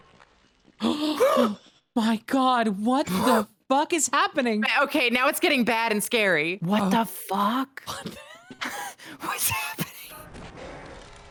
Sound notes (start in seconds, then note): 0.8 both gasp; 7.9 gasping